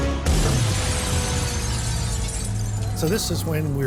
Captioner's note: glass shattering